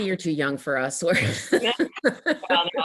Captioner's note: laughing